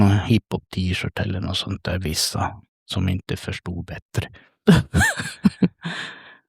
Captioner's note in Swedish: skratt